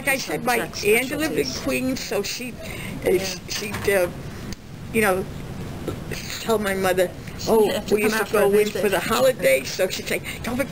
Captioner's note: laughs